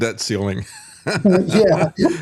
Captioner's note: laughing